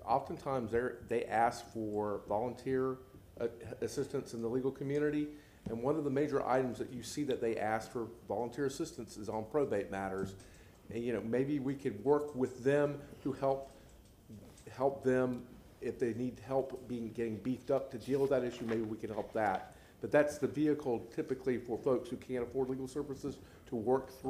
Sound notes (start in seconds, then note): none